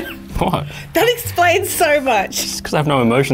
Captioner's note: laughing; laughing